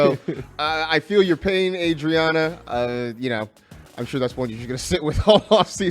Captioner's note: laughs